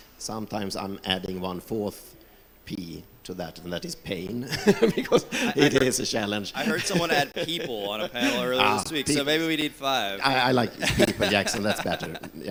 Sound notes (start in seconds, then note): 4.4 laughs